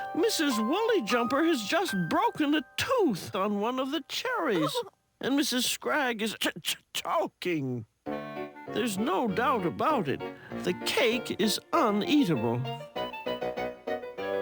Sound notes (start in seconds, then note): 4.5 Mrs. Wooly-Jumper whimpers; 8.0 playful music